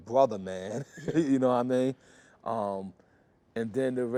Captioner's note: laughter